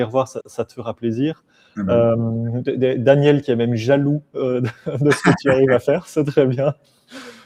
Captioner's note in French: rires